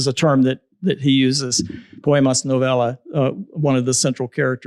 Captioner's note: spanish